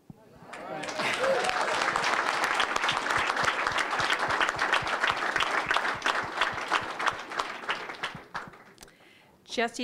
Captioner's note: applause, cheering